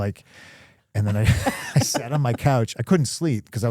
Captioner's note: Stephanie laughing